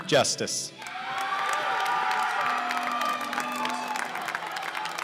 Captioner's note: cheers and applause